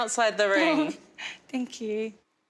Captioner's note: baby laughs